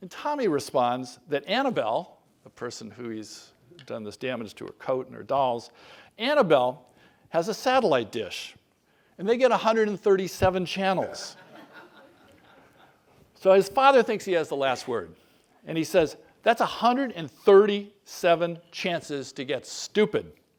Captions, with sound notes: And Tommy responds that Annabelle, a person who he's done this damage to her coat and her dolls, Annabelle has a satellite dish. And they get 137 channels. >> [LAUGH] >> So his father thinks he has the last word and he says that a hundred and thirty-seven chances to get stupid.